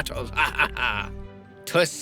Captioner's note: laughs